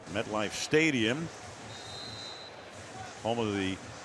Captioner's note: announcer on loudspeaker